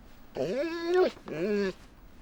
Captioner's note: dog whines